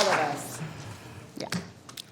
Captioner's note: applause